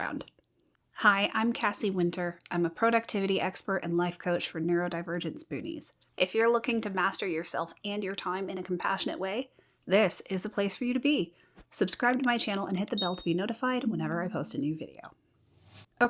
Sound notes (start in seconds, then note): 12.9 bell rings